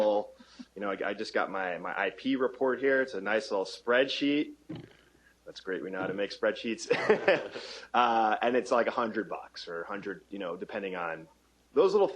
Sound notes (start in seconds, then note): 6.8 laughter